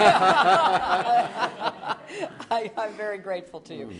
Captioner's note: laughter